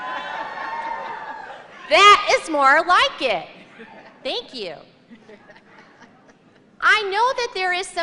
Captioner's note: cheers and applause; laughter